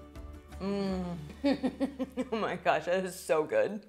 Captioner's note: giggling